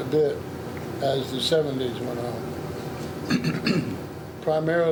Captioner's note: clearing throat